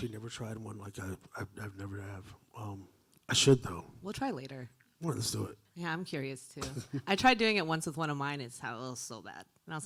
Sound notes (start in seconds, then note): 6.6 chuckling